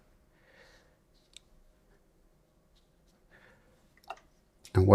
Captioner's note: silence